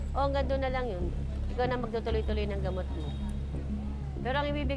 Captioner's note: speaks in foreign language